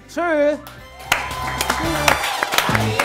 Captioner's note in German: Dynamische Musik; Jubel